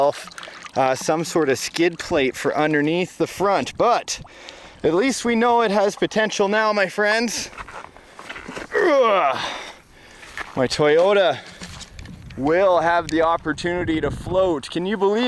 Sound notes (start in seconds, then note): 8.7 grunting